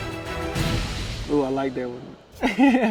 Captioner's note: boisterous music continues; fire roaring; laughing